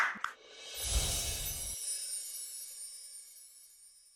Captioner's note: clapping; chimes ringing